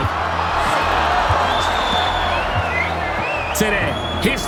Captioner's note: crowd cheering